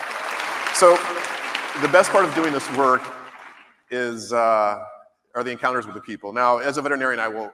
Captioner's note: applause